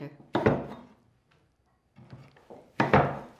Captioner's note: chopping